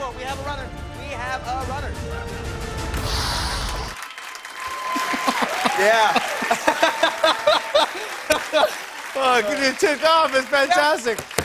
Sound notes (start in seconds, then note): 1.8 hisses; 4.3 cheers and applause; 6.9 both laugh